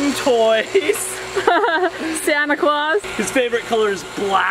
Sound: laughing

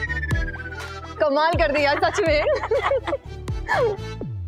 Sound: chuckling

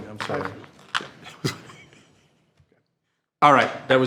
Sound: trustees chuckling

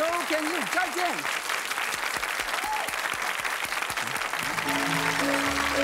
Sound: audience applause; joyful music

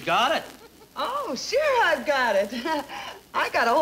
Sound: chuckling

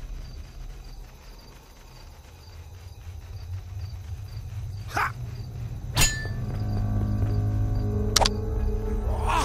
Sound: =a hissing sound

